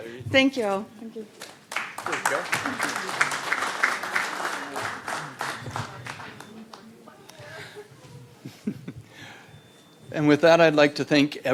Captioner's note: applause